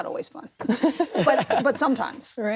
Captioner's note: all chuckles